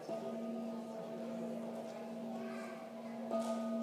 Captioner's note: singing bowl chimes